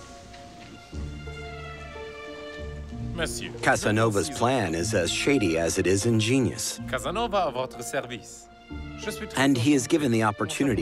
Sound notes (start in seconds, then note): 5.9 Casanova speaking French